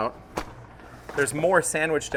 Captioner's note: dough whacks